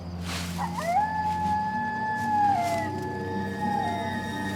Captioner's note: howl